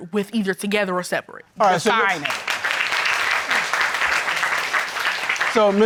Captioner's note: audience applauds